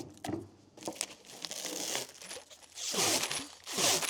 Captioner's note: paper rustling